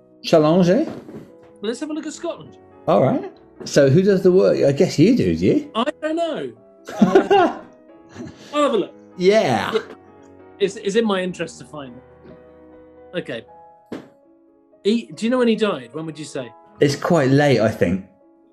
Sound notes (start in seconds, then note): 6.9 laughing